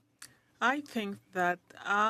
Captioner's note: speaking French